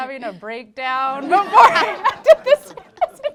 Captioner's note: laughter